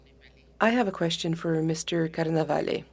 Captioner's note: speaking French